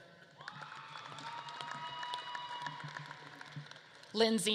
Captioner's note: audience claps and cheers